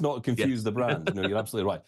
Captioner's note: laughing